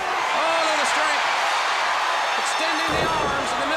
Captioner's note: crowd cheering